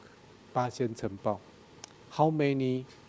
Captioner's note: speaking in a foreign language